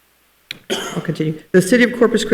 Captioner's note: participant coughs